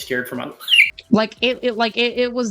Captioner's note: fucking obnoxious squeak kill it with fire